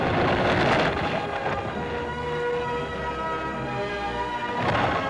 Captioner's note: flames crackling